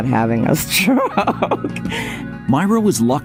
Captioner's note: laughing